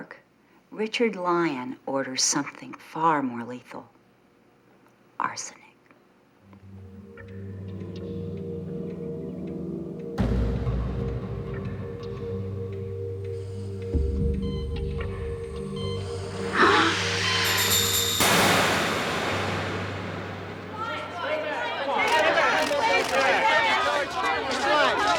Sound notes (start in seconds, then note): 5.7 ominous music; 16.6 Nancy gasping; 16.6 machine beeping; 18.8 dramatic music